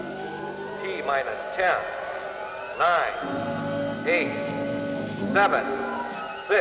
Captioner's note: man on PA